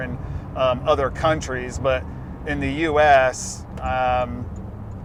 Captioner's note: turn signal beeping